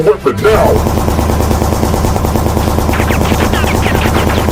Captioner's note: gunshots banging